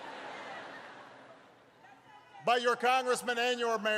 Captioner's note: laughter